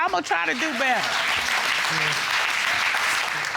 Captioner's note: audience applauding